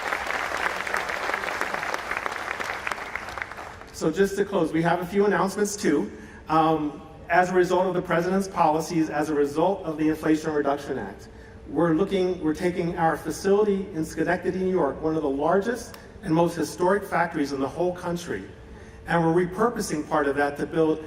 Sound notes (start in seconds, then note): 5.0 applause